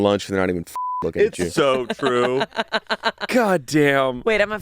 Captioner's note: beep; laughing